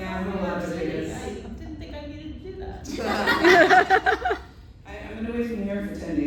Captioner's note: laughter